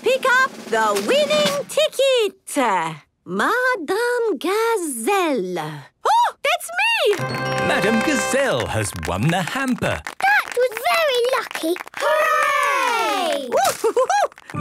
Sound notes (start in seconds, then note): 7.7 applause